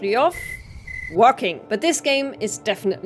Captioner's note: crickets